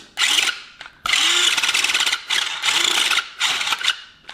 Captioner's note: motor whirs